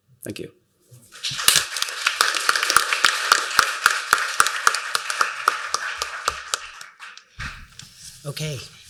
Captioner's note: applause